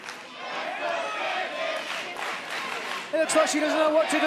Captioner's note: fans chanting